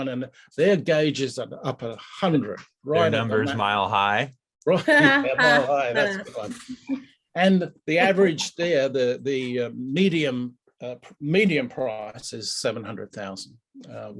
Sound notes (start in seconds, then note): 4.7 laughing